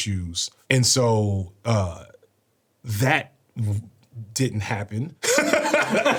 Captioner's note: laughs